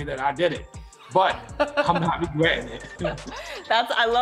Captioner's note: laughs